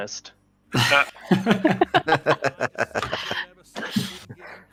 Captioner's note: laughter